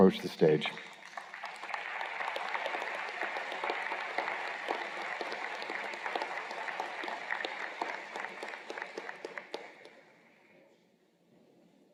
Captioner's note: applause